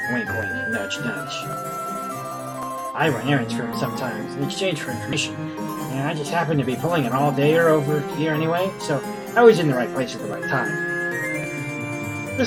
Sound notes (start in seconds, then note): none